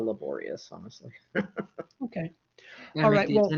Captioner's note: laughs